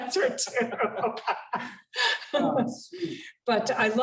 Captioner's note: laughter